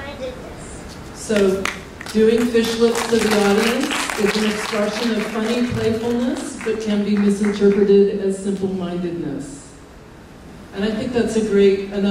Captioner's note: applause